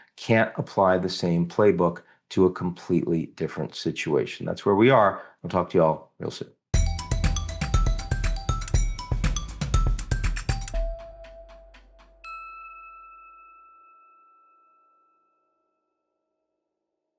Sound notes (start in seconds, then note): 6.7 bright music; 12.5 bell chiming